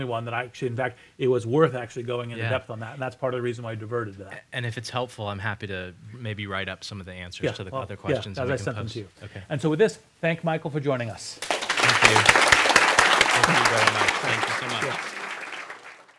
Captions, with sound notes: that I actually in fact it was worth actually going in depth on that and that's part of the reason I diverted that. - And if it's helpful I'm happy to maybe write up some of the answers to the other questions. - Yeah I'll send them to you. - And so with this, thank Michael for joining us. (applause) - Thank you. Thank you very much. Thank you so much.